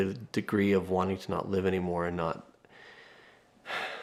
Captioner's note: sighs